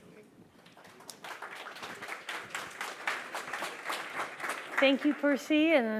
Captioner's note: applause